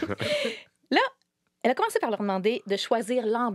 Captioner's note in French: rires